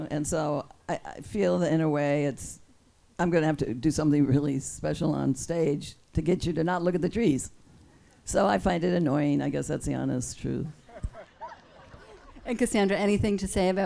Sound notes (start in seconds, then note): 10.9 audience laughs